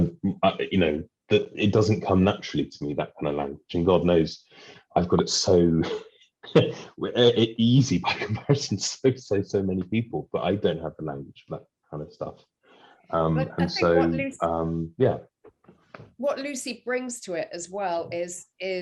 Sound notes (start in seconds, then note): 6.5 laughs